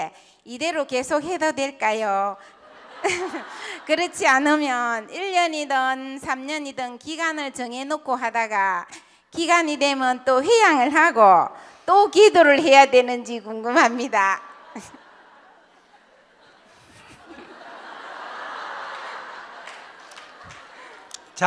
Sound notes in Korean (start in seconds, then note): 2.6 질문자와 청중 웃음; 15.8 웃음; 16.5 청중과 스님 웃음